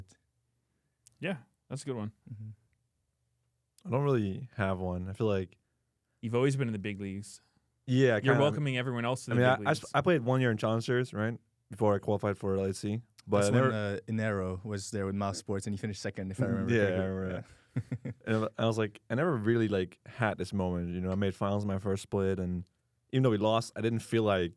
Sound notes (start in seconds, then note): 16.4 laughs